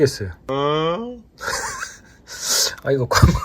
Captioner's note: laughs